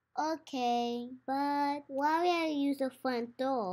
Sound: none

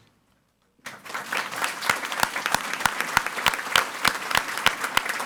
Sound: audience applauding

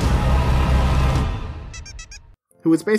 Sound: rubber duck squeaking

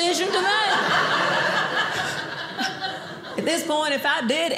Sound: audience laughing

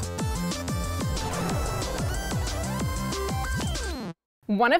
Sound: upbeat music; rocket whooshing

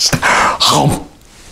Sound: gulp

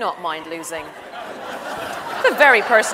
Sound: audience laughs

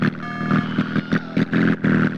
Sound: Wilhelm scream

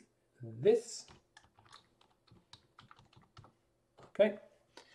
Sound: keyboard clanking

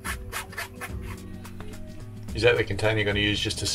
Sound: scrapes sieve

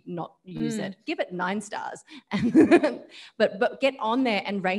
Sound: laughs

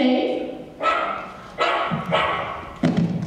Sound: barking

